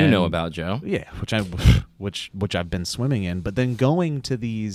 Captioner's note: scoffs